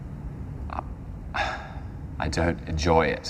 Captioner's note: sighs